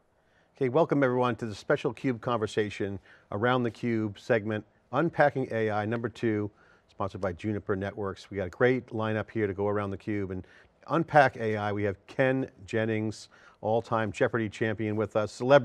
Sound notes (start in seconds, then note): none